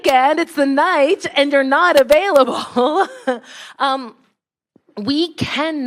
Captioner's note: laughs